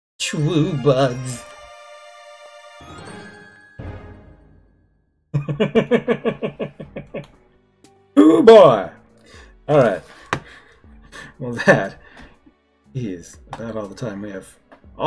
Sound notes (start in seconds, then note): 0.3 friendship fanfare; 5.4 laughs